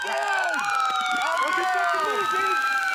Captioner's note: screaming